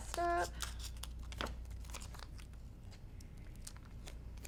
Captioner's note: scissors snipping